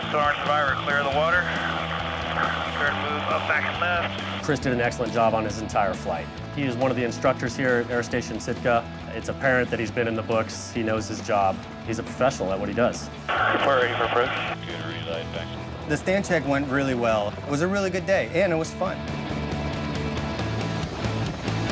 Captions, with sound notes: Swimmer and survivor are clear of the water. Start to move up, back, and left. - Chris did an excellent job on his entire flight. He is one of the instructors here at Air Station Sitka. It's apparent that he's been in the books. He knows his job. He's a professional at what he does. - [Man On Radio] Preparing for approach. - The STAN check went really well. It was a really good day and it was fun. (rock music)